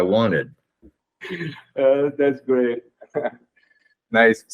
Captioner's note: laughing